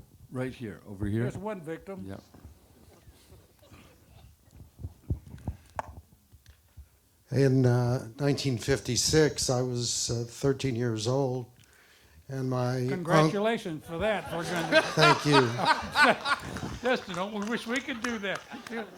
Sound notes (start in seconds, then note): 14.1 audience laughter